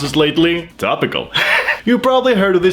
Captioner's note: laughs